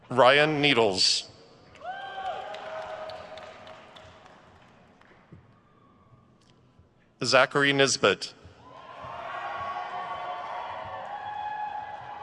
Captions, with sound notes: Ryan Needles. (crowd cheers) Zackary Nisbet. (crowd cheers)